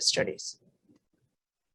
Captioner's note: silence